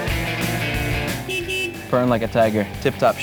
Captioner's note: car honking